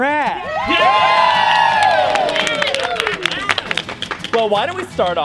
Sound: campers cheering

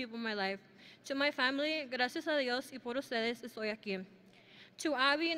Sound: speaks in foreign language

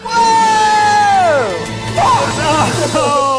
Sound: men cheering

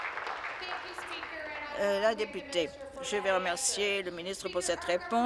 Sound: applause

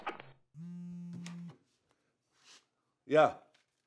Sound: phone vibrating

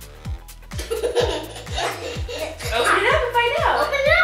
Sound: laughs

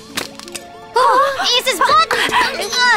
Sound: both gasp

